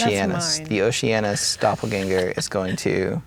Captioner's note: laughing